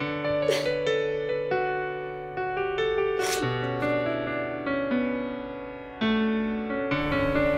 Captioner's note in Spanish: Sollozos